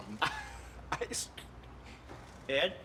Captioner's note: laughs